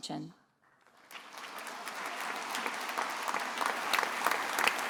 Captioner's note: attendees applauding